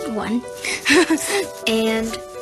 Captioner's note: chuckle